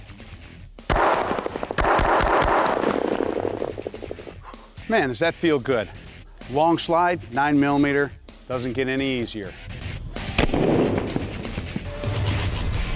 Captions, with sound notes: (gun firing) Man, does that feel good. Long slide, 9mm, doesn't get any easier. (gun firing)